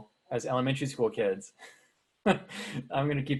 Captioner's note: chuckling